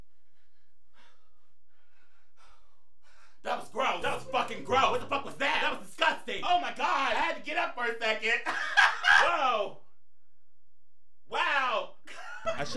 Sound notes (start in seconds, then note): 0.0 panting; 8.3 laughing; 10.9 laughing